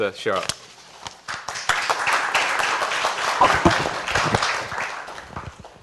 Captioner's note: applause